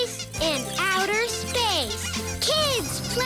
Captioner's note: squeaking